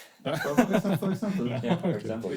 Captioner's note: laughing